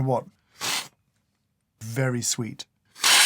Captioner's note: slurp